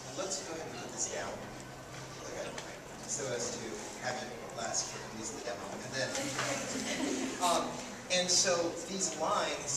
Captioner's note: laughs